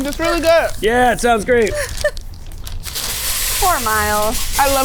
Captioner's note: laughing